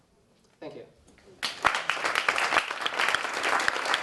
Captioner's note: applause